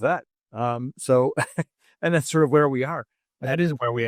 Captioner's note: laugh